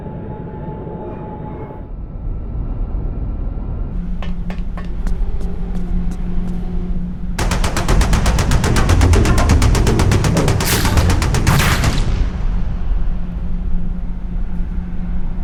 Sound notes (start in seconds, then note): 7.4 gun fires